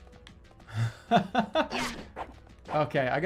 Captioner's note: laughing